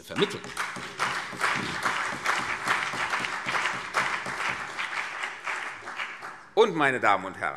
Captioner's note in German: Beifall CDU und BÜNDNIS 90/DIE GRÜNEN